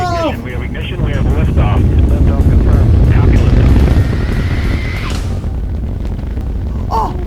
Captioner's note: rocket blasting off noises can be heard